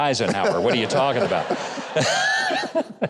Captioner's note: all laugh